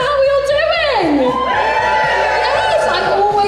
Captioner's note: audience Cheers